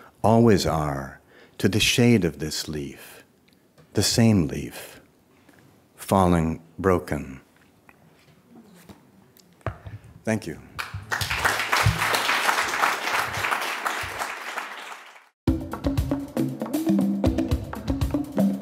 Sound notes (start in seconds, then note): 10.7 audience clapping; 15.5 festive music